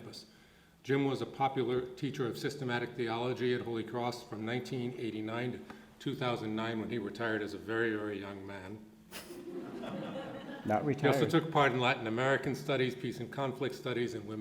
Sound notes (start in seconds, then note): 9.2 audience laughing